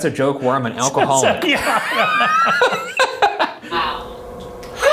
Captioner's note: both laughs; Shane laughs